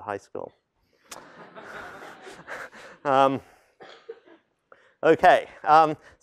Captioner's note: laughter